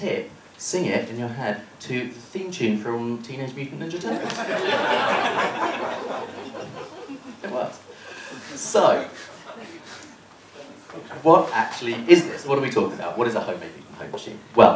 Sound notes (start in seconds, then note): 4.1 laughter